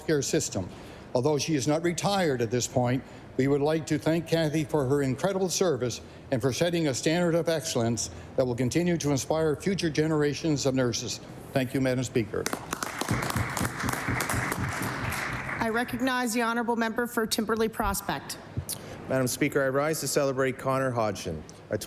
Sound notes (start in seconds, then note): 15.7 applause